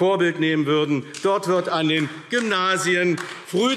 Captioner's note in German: Beifall AfD